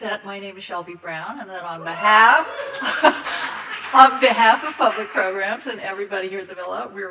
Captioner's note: laughs as audience member cheers